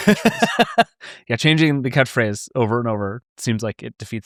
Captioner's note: laughing